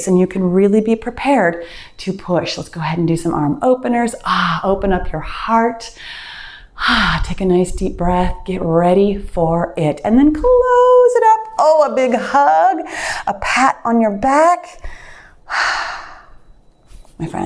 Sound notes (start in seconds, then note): 6.1 sighs deeply; 15.4 sighs deeply